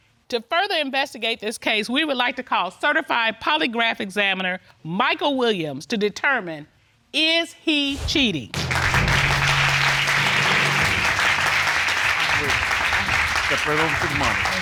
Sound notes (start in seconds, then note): 8.5 audience applauds